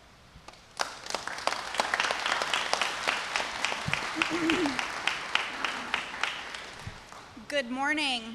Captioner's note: applause